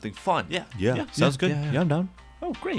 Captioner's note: general agreement